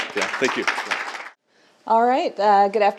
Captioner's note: group clapping